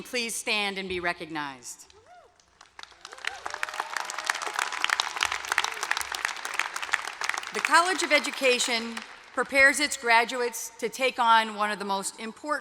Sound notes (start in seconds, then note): 2.3 applause